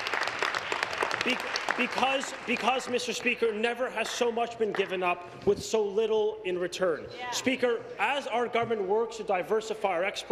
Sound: applause

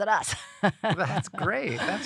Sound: laugh

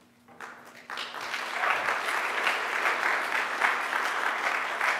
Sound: audience applauding

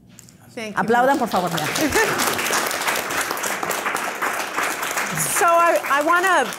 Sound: speaking in foreign language

